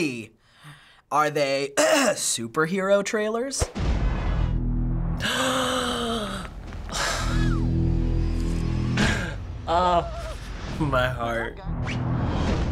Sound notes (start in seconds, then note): 0.8 clears throat; 5.2 gasps, sighs in content